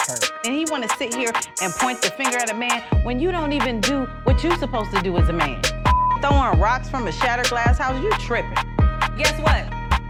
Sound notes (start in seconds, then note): 5.8 beeping